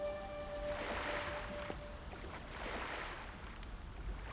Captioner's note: waves sloshing